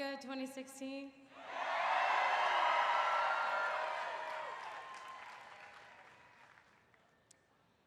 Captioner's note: cheering